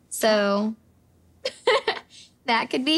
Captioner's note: laughing